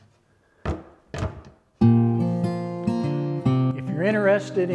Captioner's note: door closes; guitar music